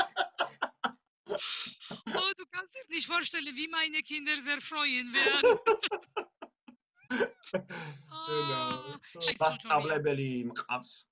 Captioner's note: in German; in Georgian